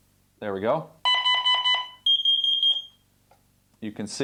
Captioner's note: beeping